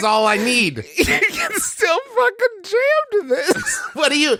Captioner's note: trying to talk but too busy wheezing